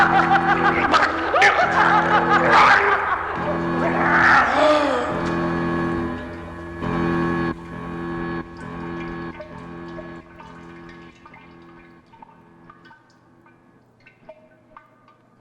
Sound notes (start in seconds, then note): 6.0 blood dripping